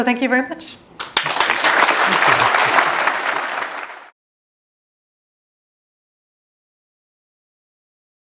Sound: applause

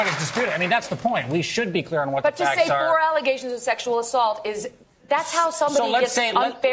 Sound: applause

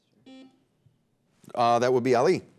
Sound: timer beeping

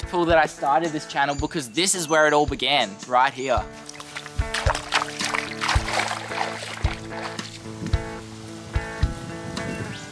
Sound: loud steps on water

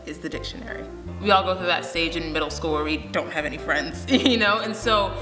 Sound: laughs

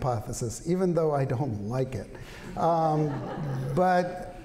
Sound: laughter

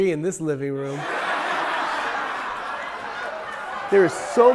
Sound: people laughing

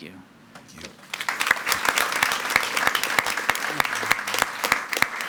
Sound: attendees clapping

